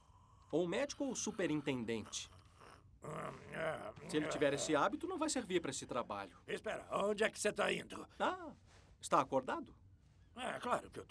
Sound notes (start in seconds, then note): 3.0 grumbling, clearing throat